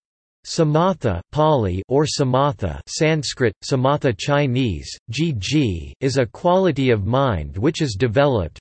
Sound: Pāli

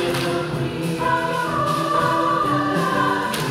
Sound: claps

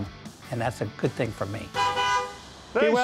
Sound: horn honks

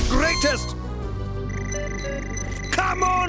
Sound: beeping

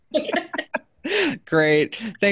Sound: everyone laughing

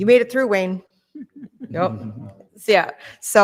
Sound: laughing

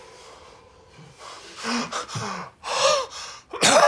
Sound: gasps

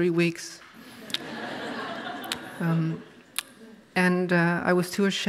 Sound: audience laughs

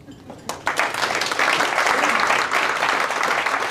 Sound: audience claps

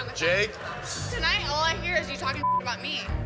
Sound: beep

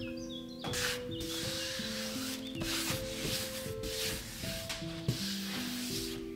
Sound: sweeping

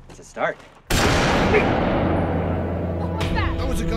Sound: gunshot blaring

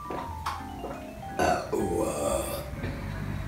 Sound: big burp

